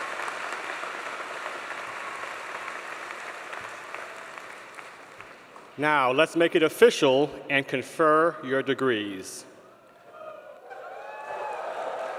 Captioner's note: applause